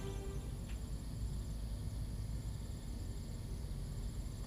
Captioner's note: bugs chirping